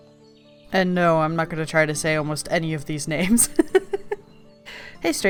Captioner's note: laughs